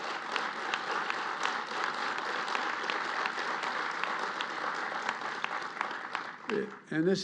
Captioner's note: applause